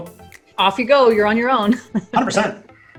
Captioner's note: chuckling